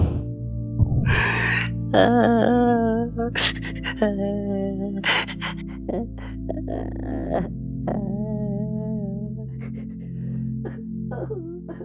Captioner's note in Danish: Salad Fingers græder